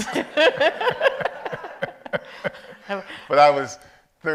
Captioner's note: audience laughs